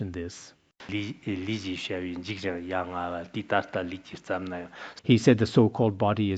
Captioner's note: citing scripture in Tibetan